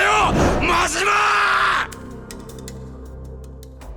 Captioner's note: shouting